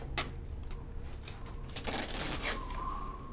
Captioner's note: wind whistling